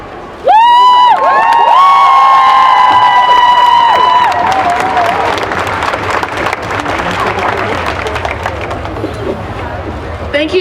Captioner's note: cheering and applause